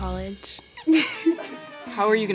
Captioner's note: laughs